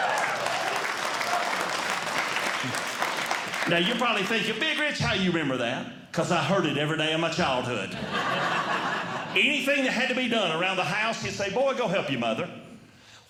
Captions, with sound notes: [Audience Clapping] Now, you’re probably thinking Big Rich, how you remember that? Because I heard it every day in my childhood. [Audience Laughing] Anything that had to be done around the house he'd say, "Boy, go help your mother."